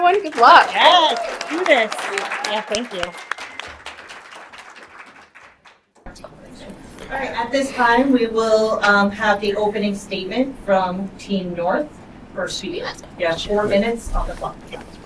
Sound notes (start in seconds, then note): 2.0 audience claps; 6.2 person whispers; 11.9 person whispers